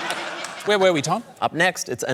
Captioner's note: laughter